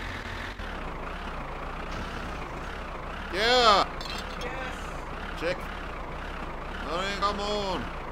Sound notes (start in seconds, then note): 5.3 engine straining